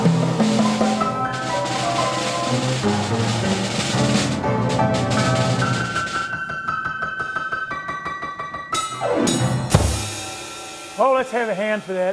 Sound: music and then applause

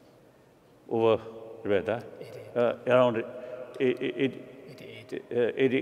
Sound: speaking foreign language

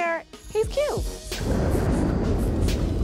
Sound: thunder

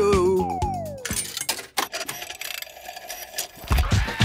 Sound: clicks, whirring; hip hop music plays

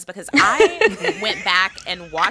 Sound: laughter

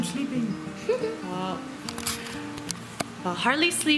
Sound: laughter

